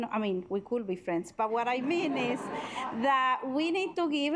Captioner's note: assembly chuckling